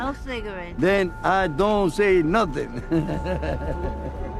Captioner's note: laughing